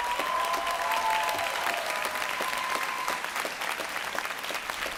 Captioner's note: applause, cheering